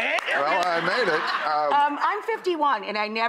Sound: laughing

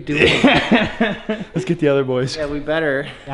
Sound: laughing

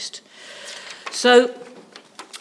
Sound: pages rustling

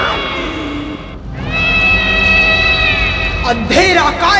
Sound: cat meows

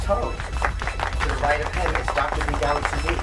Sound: clapping

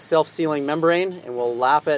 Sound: hand swishes

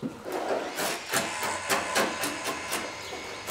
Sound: scraping noises

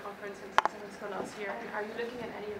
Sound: speaking faintly

